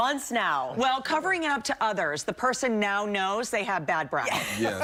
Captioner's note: laughter